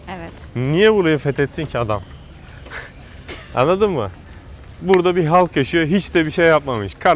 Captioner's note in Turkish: kahkaha